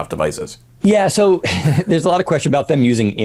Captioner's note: chuckling